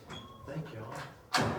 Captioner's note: door squeaks